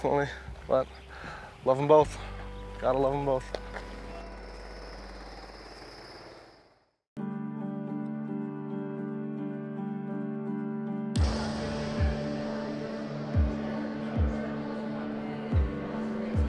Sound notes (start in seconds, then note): 4.4 vehicle motor rattles; 7.1 soft music